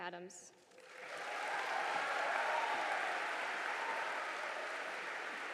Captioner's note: audience applauding